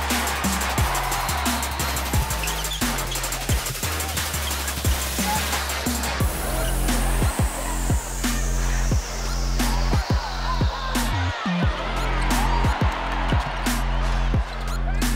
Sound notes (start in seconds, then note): 0.2 energetic hip-hop music; 1.4 sneakers squeaking; 7.5 cheering; 11.4 energetic hip-hop music